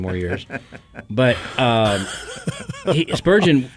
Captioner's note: laughter